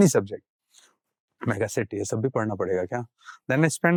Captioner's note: speaking in Hindi